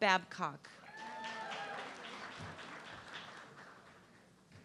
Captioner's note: audience clapping